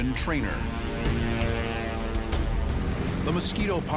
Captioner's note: propeller buzzing